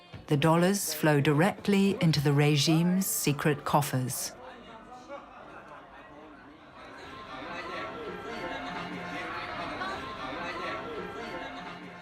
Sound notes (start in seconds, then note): 5.9 chatter